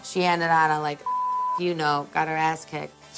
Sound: beep

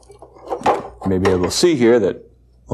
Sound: clunks

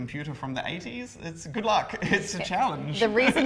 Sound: laugh

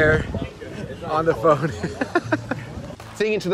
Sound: laughs

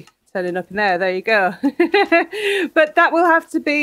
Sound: laughing

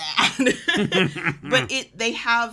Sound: chuckling

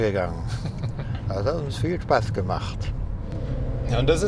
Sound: laughs

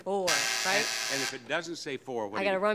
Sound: buzzer

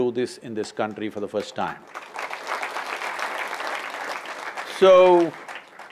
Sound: applause

